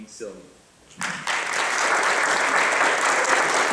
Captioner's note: audience applauding